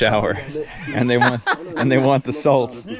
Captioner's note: laughs